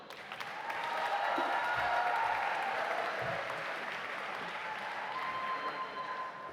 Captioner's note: audience applauding; audience cheering